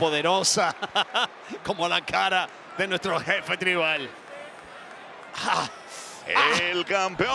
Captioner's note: laugh